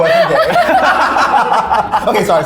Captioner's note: laughing